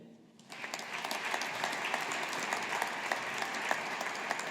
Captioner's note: audience applauding